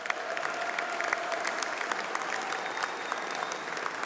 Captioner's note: applause